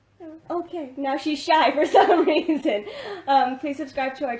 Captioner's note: laughs